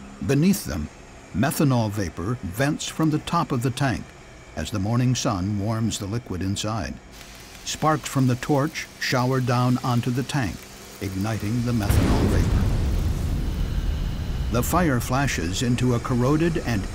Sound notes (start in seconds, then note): 11.8 sound of explosion